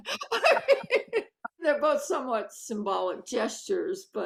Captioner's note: both laughing